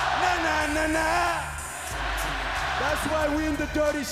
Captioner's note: crowd cheering